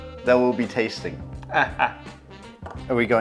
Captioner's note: chuckles